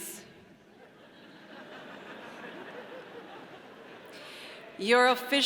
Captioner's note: audience laughing